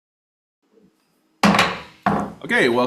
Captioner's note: gavel bangs